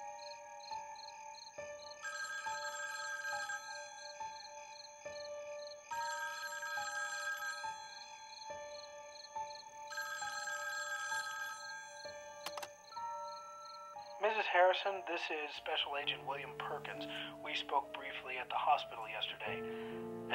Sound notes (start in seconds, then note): 1.7 telephone Ringing; 12.4 machine Clicks, Beeps